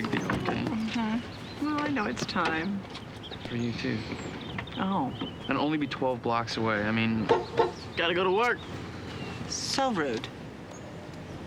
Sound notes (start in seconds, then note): 7.2 honks horn